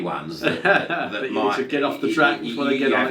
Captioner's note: laughing